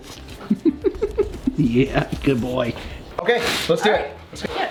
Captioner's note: normal voice